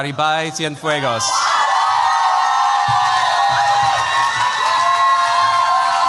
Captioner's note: cheers, applause